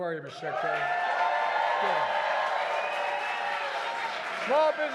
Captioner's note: applause